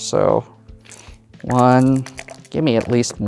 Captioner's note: dice rolling; dice rattling